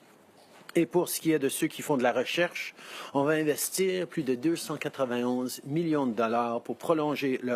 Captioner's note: speaking French